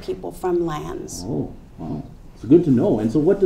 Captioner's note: boink